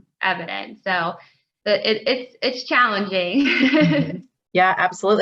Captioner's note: laughs